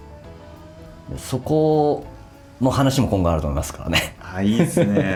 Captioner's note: laughs